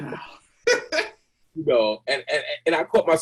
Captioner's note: laughs